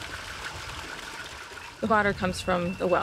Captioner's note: water rushing